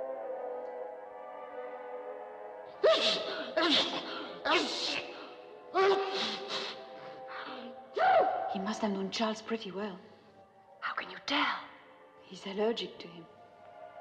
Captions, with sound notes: [ Sneezing ] - He must have known Charles pretty well. - How can you tell? He's allergic to him.